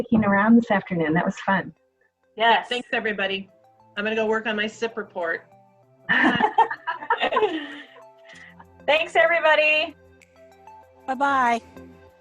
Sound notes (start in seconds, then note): 6.1 laughs